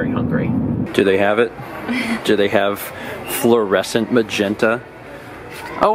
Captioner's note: chuckles